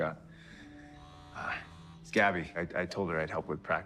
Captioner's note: phone vibrating